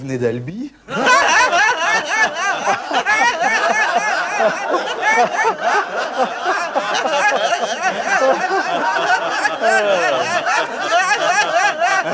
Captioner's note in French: rires niais